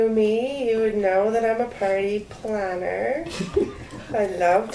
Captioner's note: laughs